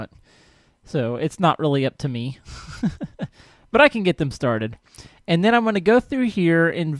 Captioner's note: laughs